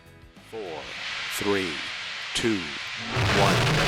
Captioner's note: music fades; Launch audio; blast sounds